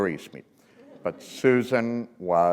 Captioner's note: laughter